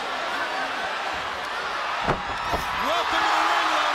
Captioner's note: crowd cheering